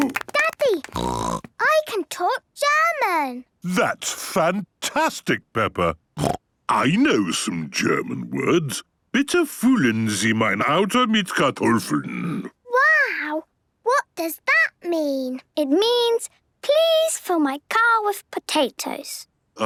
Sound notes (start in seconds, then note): 0.8 snorting; 6.2 snorting; 9.3 speaking German